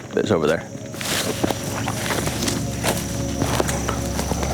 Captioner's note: leaves rustling